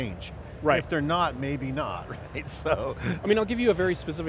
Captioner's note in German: lacht